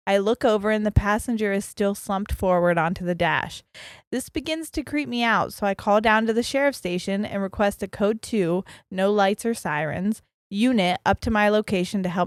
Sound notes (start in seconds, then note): none